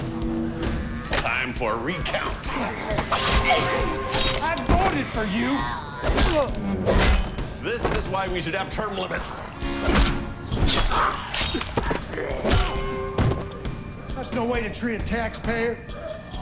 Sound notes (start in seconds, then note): 10.5 slashing; 10.8 growling